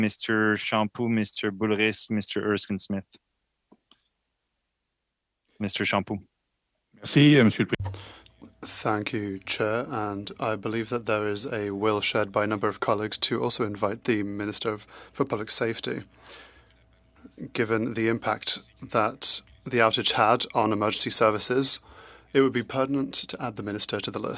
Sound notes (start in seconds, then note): 12.8 speaking French